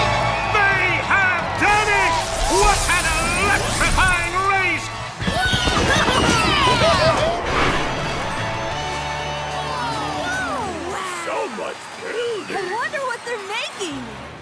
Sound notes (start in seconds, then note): 4.8 cheering